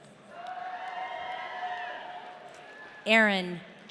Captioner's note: audience cheering